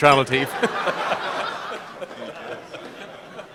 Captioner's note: laughter